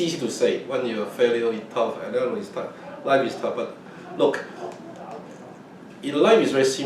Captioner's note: laughs